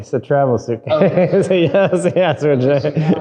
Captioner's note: laughs